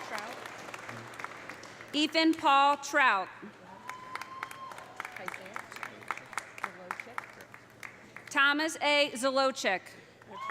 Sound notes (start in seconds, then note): 3.7 audience cheering; 3.7 audience applauding